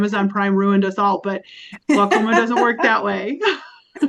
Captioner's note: laughs